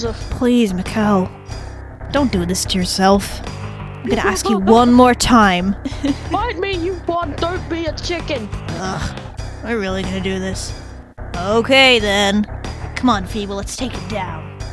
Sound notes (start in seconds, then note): 5.8 laughs; 8.6 sighs